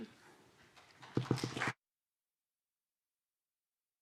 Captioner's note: applause